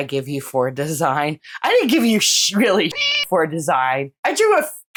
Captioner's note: meow